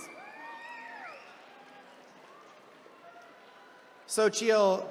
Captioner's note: attendees cheering